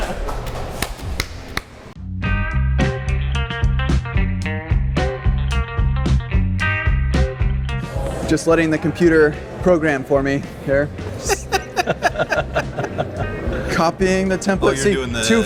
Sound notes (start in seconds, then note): 0.0 laughter; 11.2 laughter